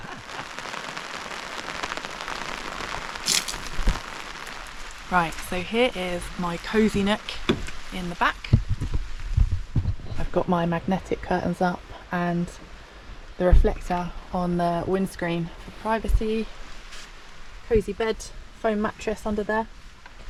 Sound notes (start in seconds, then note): 0.3 rain; 3.2 splosh; 3.7 rain